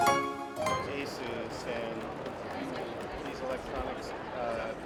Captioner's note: upbeat music; people chattering